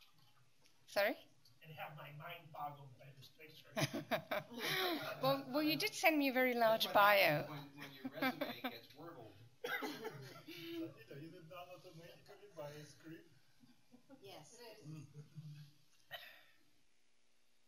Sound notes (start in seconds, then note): 3.7 laughter; 9.6 laughter, indistinct speech